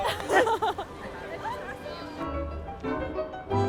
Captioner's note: laughs